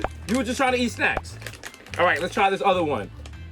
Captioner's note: pops